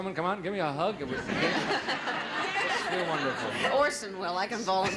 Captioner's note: audience laughing